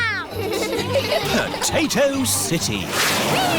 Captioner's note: all giggling